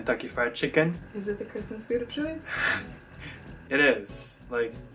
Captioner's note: laughs